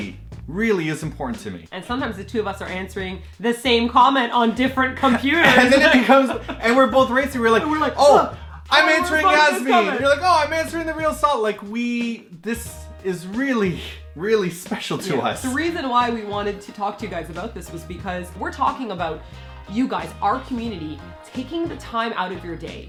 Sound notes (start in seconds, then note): 8.8 both yelling to answer first